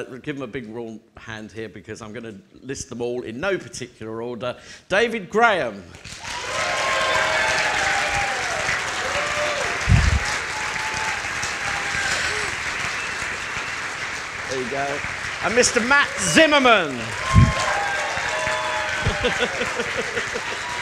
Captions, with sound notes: Give them a big warm hand here because I'm gonna list them all in no particular order. David Graham. (audience applauding) Mr. Matt Zimmerman. (presenter laughing)